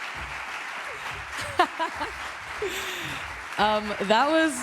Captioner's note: applause